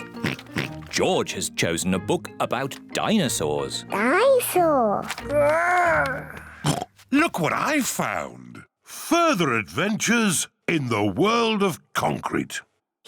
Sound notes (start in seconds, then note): 0.2 oinks; 6.6 oinks